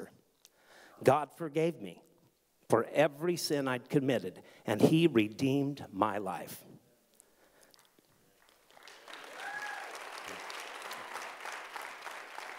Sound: audience clapping

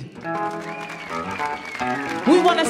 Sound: audience applauds; audience cheers

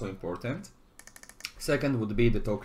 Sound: mouse clicks

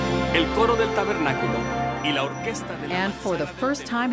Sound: man speaks Spanish

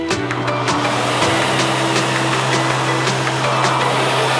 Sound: equipment whirring

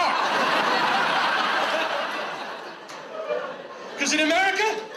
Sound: audience laughs

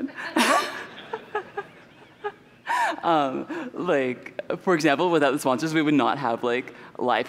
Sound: laughter

